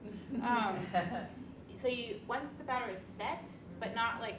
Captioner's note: women laugh